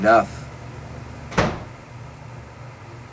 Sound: door close

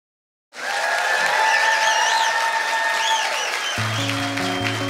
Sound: applause

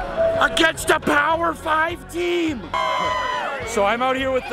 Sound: crowd screams

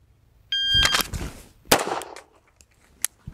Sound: signal chiming; gun firing; gun clicking

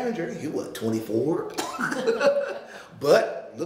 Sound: laughing

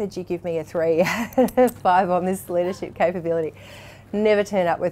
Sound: laughs

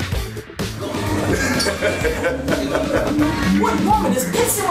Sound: laughter

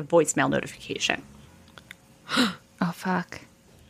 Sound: gasps

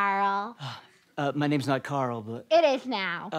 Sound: sigh

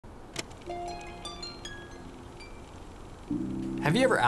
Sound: phone ringing

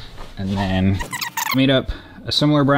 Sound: tape fast-forwarding

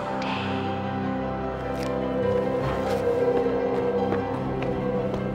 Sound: wind whistling

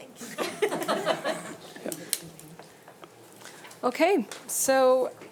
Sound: group laughing

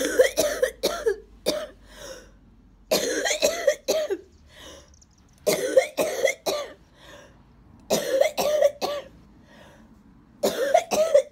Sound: hard coughing

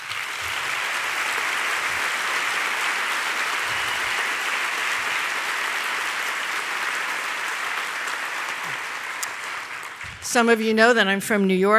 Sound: applause

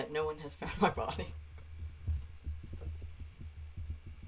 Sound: laughing

